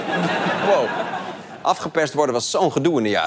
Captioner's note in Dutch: gelach